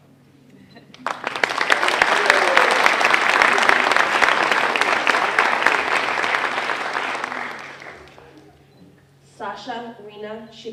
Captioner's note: applause